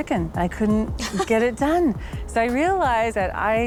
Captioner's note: laughing